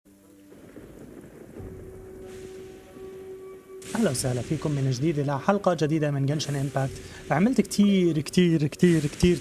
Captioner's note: water splashing